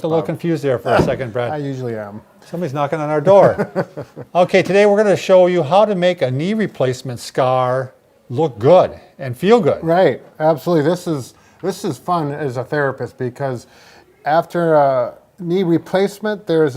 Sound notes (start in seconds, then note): 0.9 chuckles; 3.4 laughs